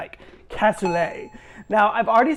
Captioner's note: graphic beeping